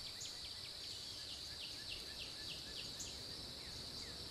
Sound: birds chirping

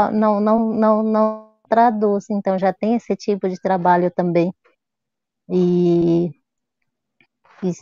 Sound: speaks portuguese

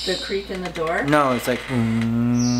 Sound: hums

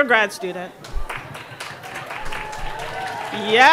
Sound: audience applauding

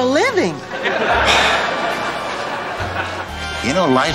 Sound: audience laughter

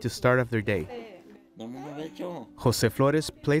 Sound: speaking foreign language

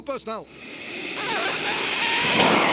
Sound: vacuuming noise

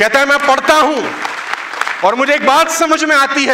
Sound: rounds of applause

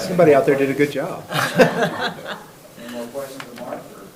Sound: people laugh

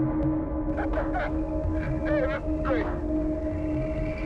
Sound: laughs

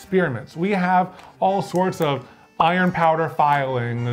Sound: pop sound effects

